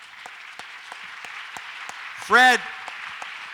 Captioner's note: audience applauds